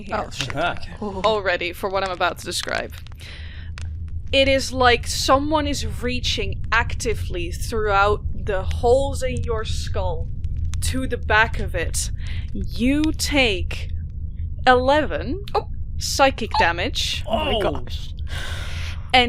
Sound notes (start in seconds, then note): 17.4 higher pitched